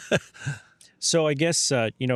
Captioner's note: laughing